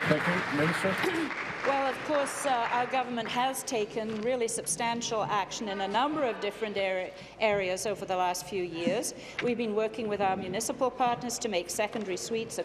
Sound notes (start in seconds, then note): 2.3 applause